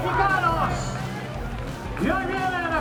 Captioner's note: people cheering